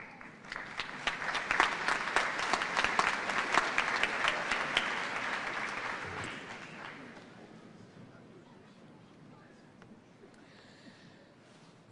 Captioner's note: applause